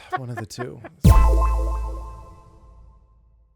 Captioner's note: echoing tone